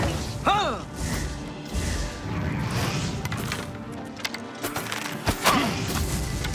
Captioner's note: fighters grunting